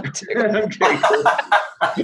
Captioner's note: laughter